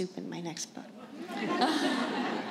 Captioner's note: laughter